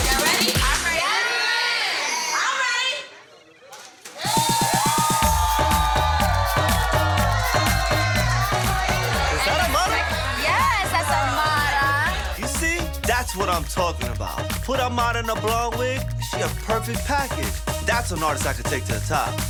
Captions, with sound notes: - So y'all ready? - [Crowd] Yes. - I'm ready! (crowd cheering) - Is that Amara? - Yes, that's Amara. - You see, that's what I'm talking about. Put Amara in a blonde wig, she a perfect package. That's an artist I can take to the top.